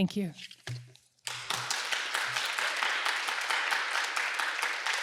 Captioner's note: applause